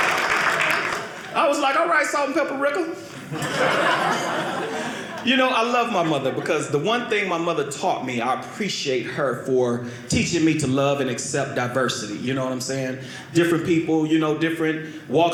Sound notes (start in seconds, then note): 0.0 audience applauding; 3.0 audience laughing